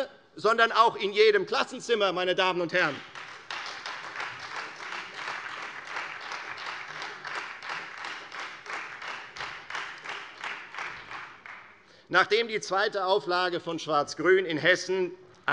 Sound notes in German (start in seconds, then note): 2.8 Beifall Freie Demokraten und vereinzelt SPD